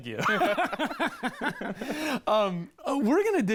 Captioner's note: laughs